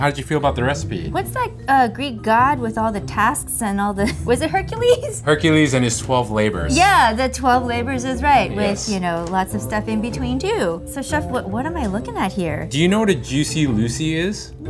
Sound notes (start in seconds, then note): 4.0 giggles